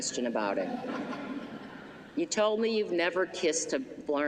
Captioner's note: laughter